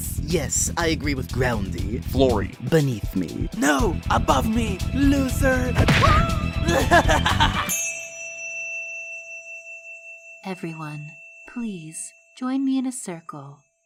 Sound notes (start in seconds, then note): 5.9 silver spoon screams; 6.0 yang laughs; 6.4 chime